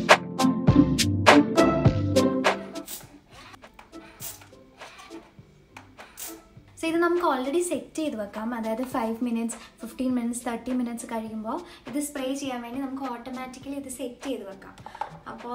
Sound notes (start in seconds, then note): 2.5 bottle spray sound